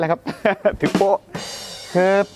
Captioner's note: laughs